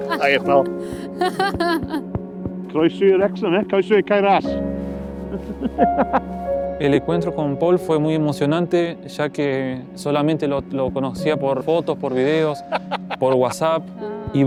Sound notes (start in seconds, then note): 6.8 in Spanish